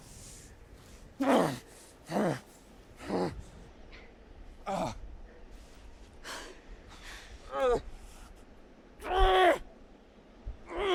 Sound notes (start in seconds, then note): 1.2 grunts; 4.6 sighs; 8.2 grunts